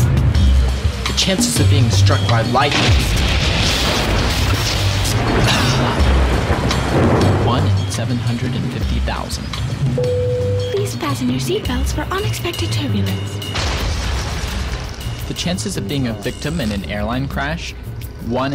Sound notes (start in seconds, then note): 13.4 engine exploding